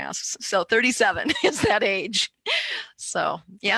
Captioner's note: laughs